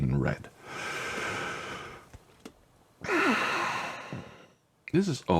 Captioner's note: deep breath then sigh